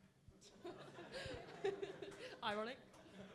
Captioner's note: laughing